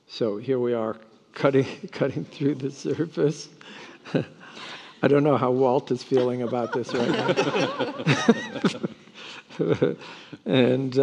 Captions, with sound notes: So here we are cutting through the surface. (laughs) I don't know how Walt is feeling about this right now. (panelists laughing)